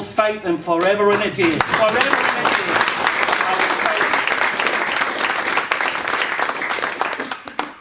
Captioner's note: applause